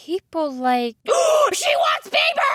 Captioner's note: horrible gasp of realization